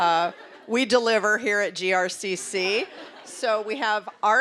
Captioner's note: audience laughing